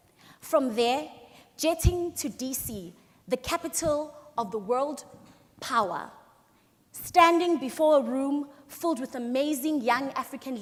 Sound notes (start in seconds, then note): none